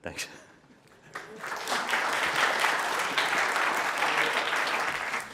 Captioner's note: audience clapping